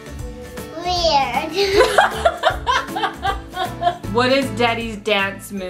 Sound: laughs

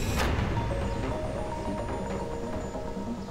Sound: phone is ringing

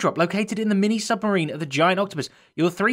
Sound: none

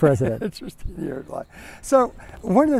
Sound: laughter

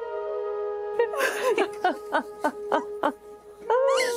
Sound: sobbing

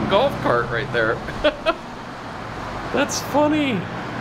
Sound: laughing

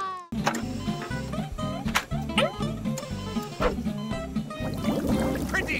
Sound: beeping

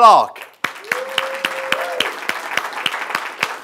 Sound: audience claps

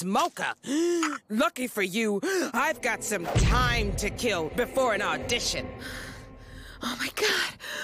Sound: gasps

